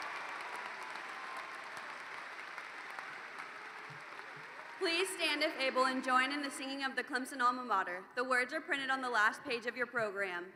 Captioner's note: cheers and Applause